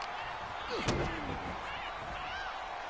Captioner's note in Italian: Applauso